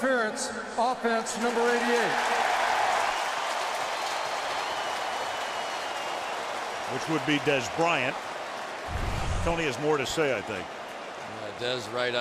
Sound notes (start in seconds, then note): 2.8 cheering